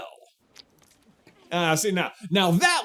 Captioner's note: splurts